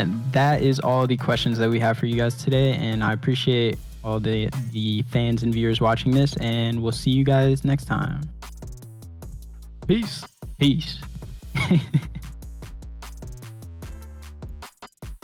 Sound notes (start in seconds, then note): 11.5 laughs